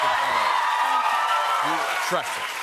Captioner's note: cheers and applause